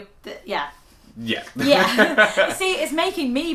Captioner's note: laugh